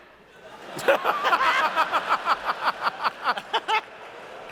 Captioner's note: laughter